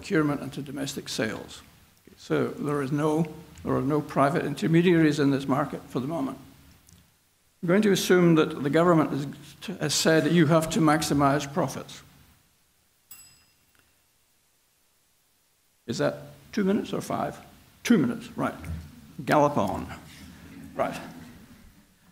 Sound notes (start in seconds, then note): 13.1 bell ringing